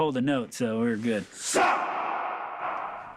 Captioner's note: all chant in dwarven